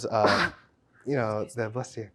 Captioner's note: sneezes